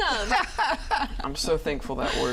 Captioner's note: mom laughing